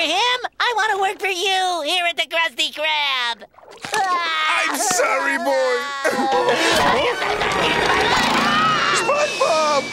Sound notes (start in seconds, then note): 3.1 crying; 5.6 crying; 7.7 screaming